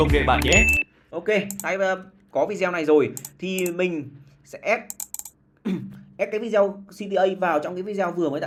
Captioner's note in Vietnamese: hắng giọng